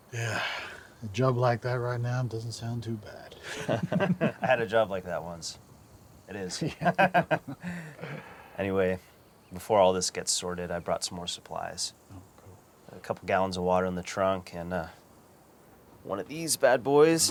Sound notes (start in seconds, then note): 3.4 laughter; 6.5 laughs